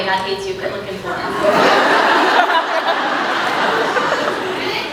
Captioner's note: laughs